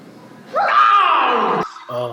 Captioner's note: screams in pain